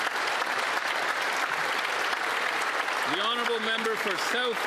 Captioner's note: applause